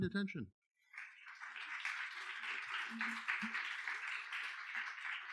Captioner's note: audience clapping